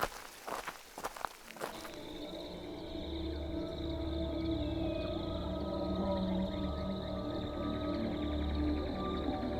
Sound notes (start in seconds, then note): 2.0 insects chirping; 2.0 ominous music